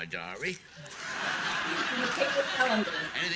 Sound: audience laughing

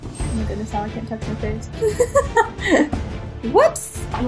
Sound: laughing

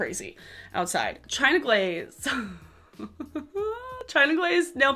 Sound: laughing

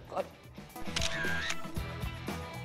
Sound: camera shutter

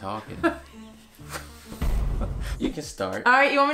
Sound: laughing

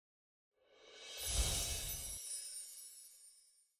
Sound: chimes ringing

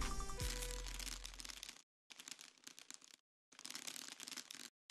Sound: candy clattering

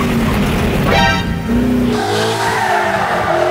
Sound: ding

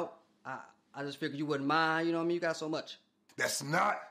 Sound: none

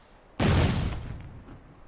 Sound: boom

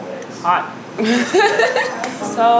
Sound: laughs

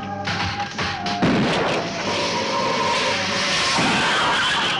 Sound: gun firing; gun firing

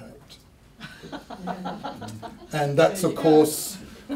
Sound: laughter

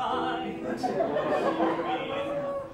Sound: laughter

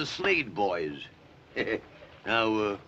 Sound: chuckles

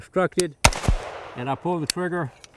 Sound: rifle fires

